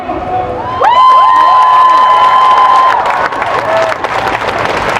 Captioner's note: cheering and applause